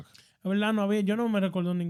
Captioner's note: speaking In Foreign Language